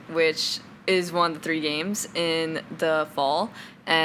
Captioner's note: none